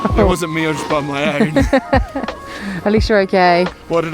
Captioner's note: laughs